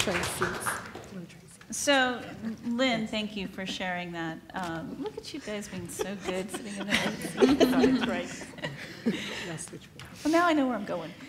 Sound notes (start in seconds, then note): 0.0 applaud; 10.1 laugh